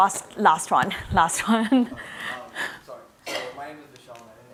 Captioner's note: laughs